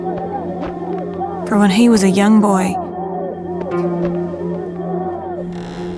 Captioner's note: door creaking